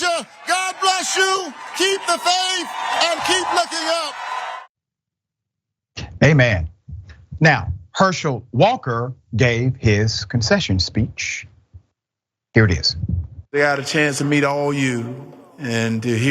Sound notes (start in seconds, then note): 4.6 applause